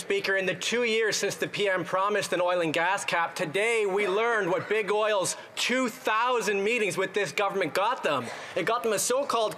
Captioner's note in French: voix de l'interprète